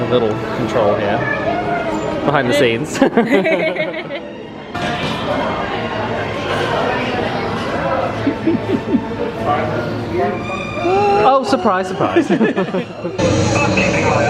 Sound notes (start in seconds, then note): 2.9 laughs; 12.0 both laugh